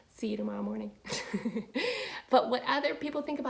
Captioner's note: laughing